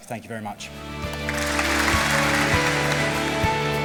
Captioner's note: applause